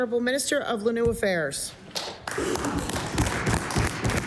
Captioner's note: applause